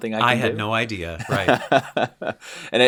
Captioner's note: laughter